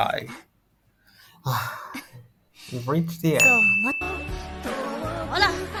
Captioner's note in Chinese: 叹气